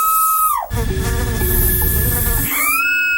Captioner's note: Janusz screaming; insect buzzing; spray bottle hissing; Janusz screaming